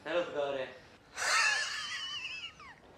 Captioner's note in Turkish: Gülme sesi